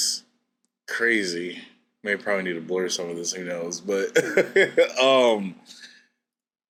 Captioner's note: laughs